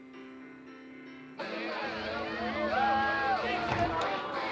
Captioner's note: chatter